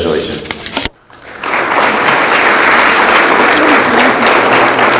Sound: audience applauds

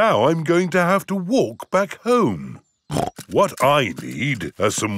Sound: snorts

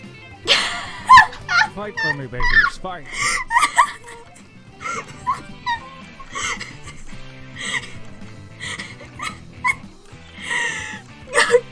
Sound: laughs; through laughter

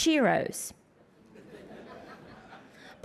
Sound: laughter

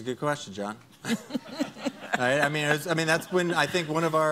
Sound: laughing

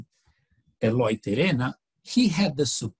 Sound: foreign language

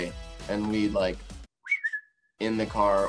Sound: whistles

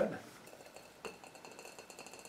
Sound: bubbling noises

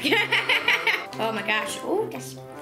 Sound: laughs

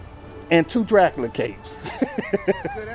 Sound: laughs

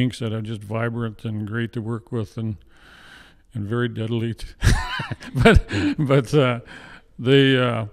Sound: laughs

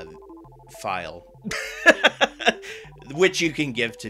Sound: laughter

